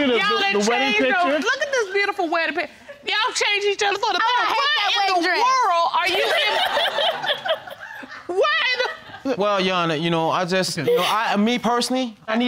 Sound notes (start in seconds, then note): 6.1 audience laughing